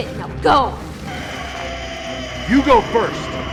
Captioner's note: creature growling